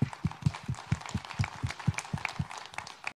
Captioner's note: audience applauds